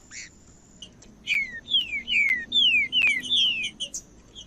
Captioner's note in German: trinca ferro cantando